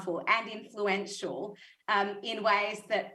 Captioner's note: none